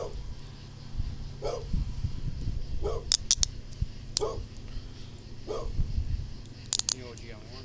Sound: dog barking

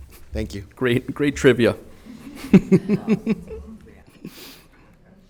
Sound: chuckles

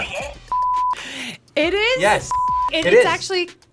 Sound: beep; beep

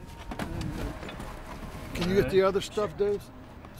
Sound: footsteps approaching

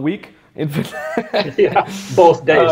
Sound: laughing

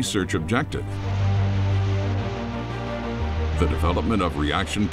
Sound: rocket flying

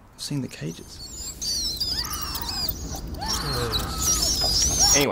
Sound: rat squeaking and people screaming

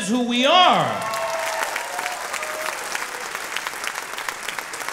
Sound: audience clapping

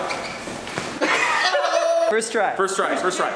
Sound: exclaiming

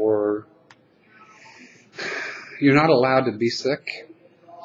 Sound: sigh

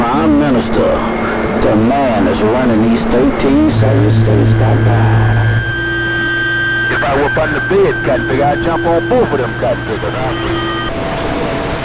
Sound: tones

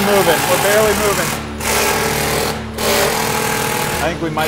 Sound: drill whirring

